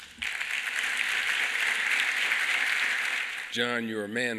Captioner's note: applause